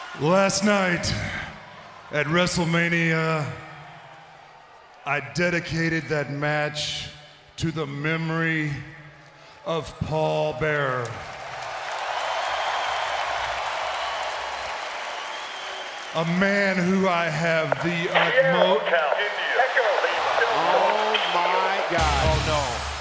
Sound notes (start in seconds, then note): 11.5 audience applauds and cheers; 19.7 audience cheers; 21.9 dramatic music